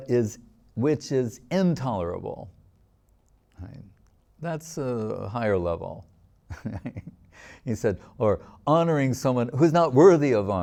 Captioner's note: laughing